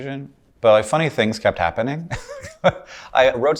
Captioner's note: laughs